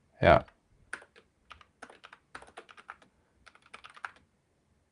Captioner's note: typing